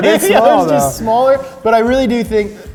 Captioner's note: laughing